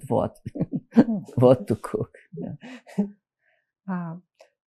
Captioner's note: laughing